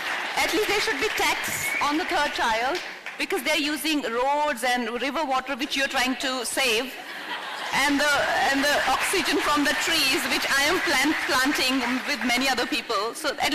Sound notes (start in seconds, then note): 7.0 laughter/Applause